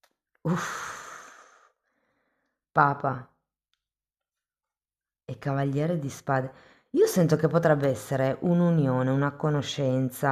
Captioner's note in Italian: sospiri